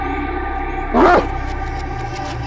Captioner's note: dog barks